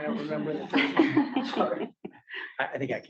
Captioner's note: laughter